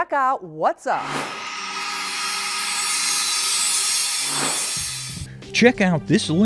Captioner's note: sound Effects